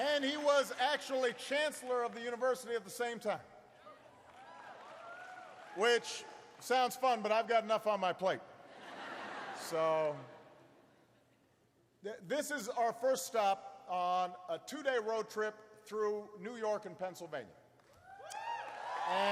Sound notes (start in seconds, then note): 0.0 applause; 10.3 laughter